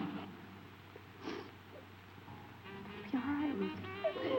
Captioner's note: Ruth sobbing